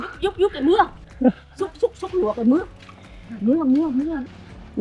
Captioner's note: Woman speaking Vietnamese